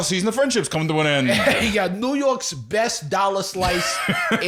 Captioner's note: NY accent